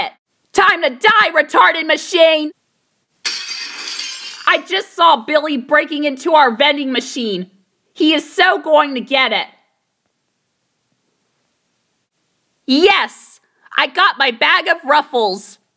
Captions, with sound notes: Time to die, retarded machine!! ( GLASS BREAKING IN DISTANCE ) I just saw Billy breaking into our vending machine. He is so going to get it! Yes! I got my bag of Ruffles!